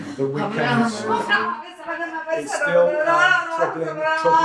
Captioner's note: madly speaking in tongues